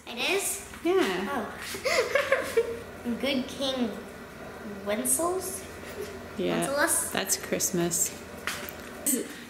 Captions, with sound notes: - It is? - Yeah! - Oh? (laughing) - Good King Wenceslas. - Yeah. - Wenceslas? - That's Christmas.